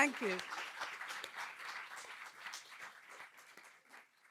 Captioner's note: audience applause